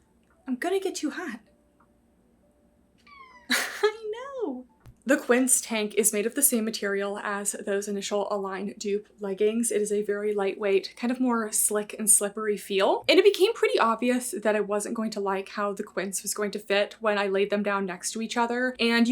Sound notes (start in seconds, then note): 3.0 Peach meows